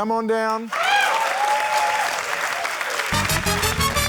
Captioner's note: cheering, applause